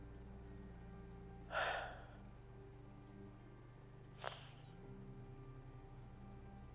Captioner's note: sighs